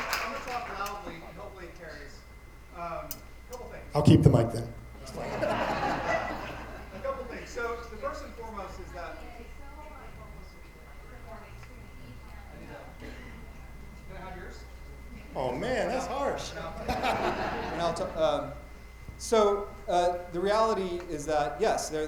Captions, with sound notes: - I'm gonna talk loudly and hopefully it carries. Couple things. - I'll keep the mic then. (attendees laughing) - A couple things, so the first and foremost is that... (light chatter) Can I have yours? - Oh man, that's harsh. (attendees laughing) - So the reality is that yes,